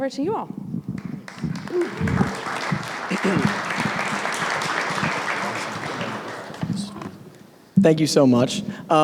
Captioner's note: applause